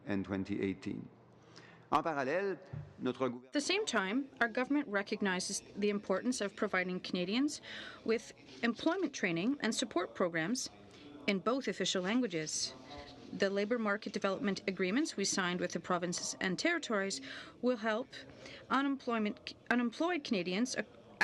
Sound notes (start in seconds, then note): 9.0 speaking French